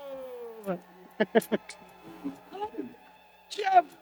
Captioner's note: audience applause